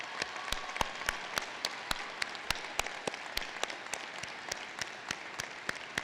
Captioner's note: applause